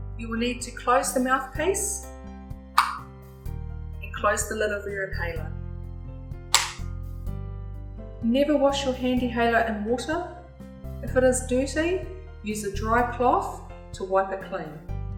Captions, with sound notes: you will need to close the mouthpiece *Click* And close the lid over your inhaler *Click* Never wash your Handihaler in water If it is dirty, use a dry cloth to wipe it clean